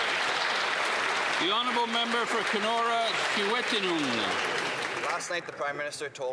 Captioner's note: applause